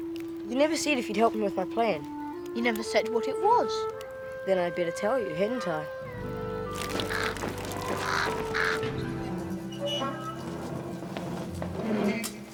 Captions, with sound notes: You never said if you'd help me with my plan? - You never said what it was. - Then I'd better tell you, hadn't I? (crows cawing) (door squealing)